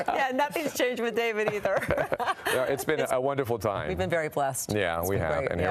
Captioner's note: laughter